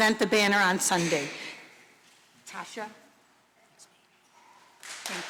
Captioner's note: applause